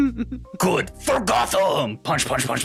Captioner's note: laughing